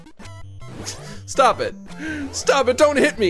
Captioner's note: laughs